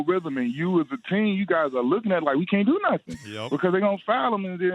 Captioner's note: laughter